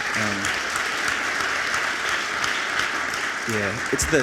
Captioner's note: audience applauds